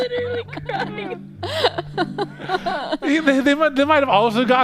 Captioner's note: laughing